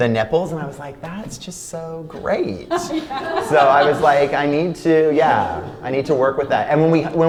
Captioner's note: laughter